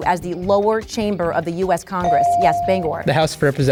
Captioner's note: bell dings